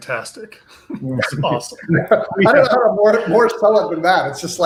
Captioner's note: laughs